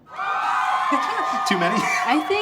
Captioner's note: people cheering